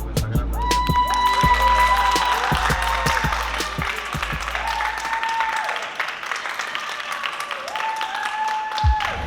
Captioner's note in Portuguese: aplausos